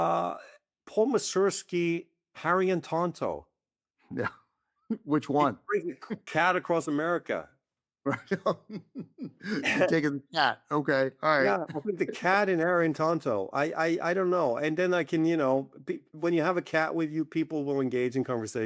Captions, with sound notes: Paul Mazursky's Harry and Tonto. (CHUCKLES) Which one? Bring the cute cat across America. (LAUGHS) You're taking the cat. Okay. All right. Yeah, I'll take the cat in Harry and Tonto. I-- I don't know. And then I can-- you know, when you have a cat with you, people will engage in conversation.